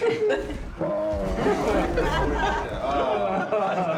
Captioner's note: all laugh; groans; all chuckle